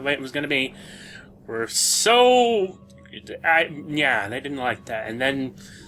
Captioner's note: wordless syllables